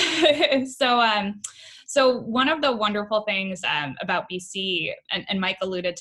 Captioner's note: laughs